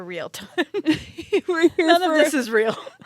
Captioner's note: laugh